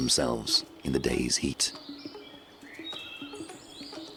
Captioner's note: birds chirping